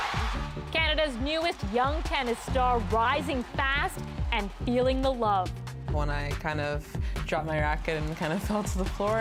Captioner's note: cheers and Applause